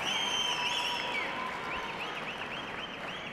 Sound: cheers and applause

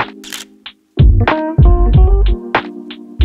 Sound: camera shutter clicks

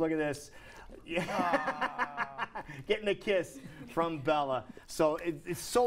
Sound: laughter

